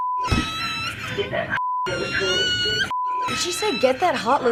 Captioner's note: woman on intercom; child wails; woman on intercom; child wails